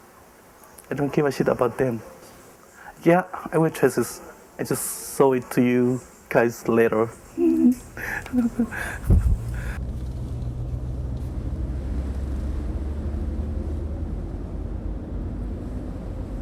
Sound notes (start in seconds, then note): 7.3 laughing